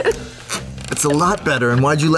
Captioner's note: laughs